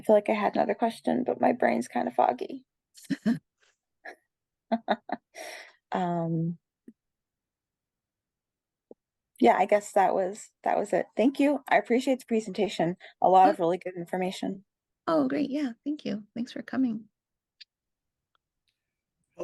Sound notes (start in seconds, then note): 4.7 caller chuckles